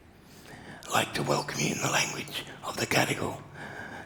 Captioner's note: speaks maori